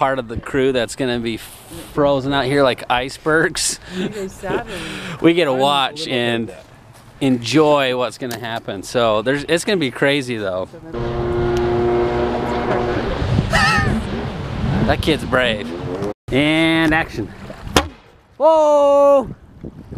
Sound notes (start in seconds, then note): 4.4 laughs; 10.8 jet ski humming; 14.0 laughs; 17.7 potato gun thuds